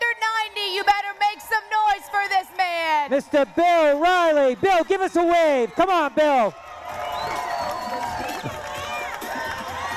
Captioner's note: cheering